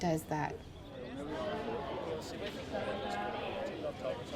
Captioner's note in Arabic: الناس يتحادثون